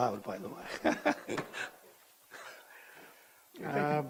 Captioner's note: chuckles